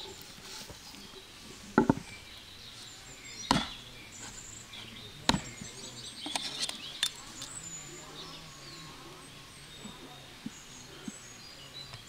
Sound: sound of nature

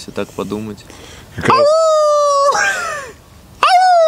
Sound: howling; howling

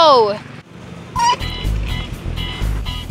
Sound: water hose spigot squeaks

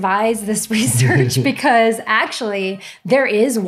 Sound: laughing

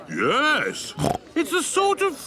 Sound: snorts

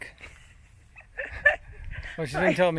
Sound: laughing

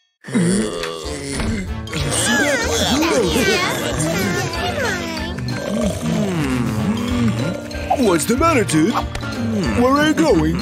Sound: sounds of chatting, snoring, yawning, chomping

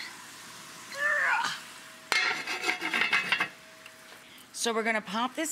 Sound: Rachael grunts

